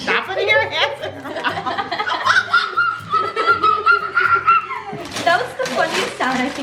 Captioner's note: laughs